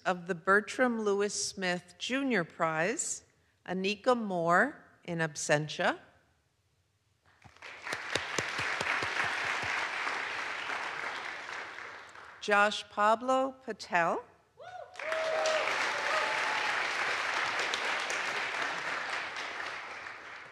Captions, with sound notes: of the Bertram Louis Smith Jr. Prize, Annika Moore, in absentia. (audience applauds) Josh-Pablo Patel. (audience applauds) (audience cheers)